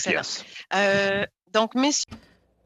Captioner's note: speaking french